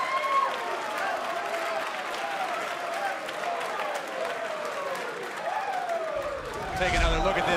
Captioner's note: crowd cheering